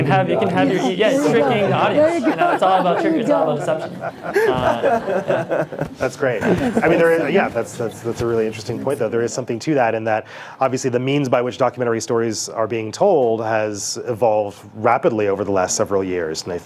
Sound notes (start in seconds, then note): 2.2 panel laughs; 5.1 panel and audience laugh